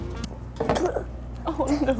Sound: gags

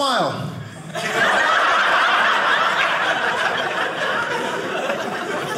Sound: audience laughing

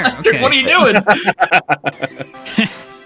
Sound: laughter

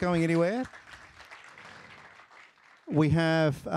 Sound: applause

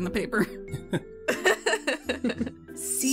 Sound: all laugh

